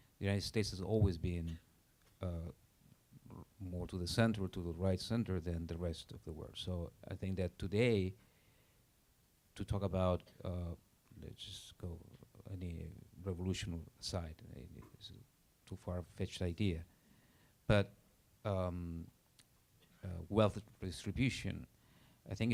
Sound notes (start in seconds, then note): none